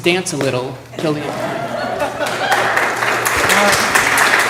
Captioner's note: applause